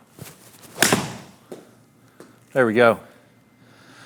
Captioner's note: ball smacking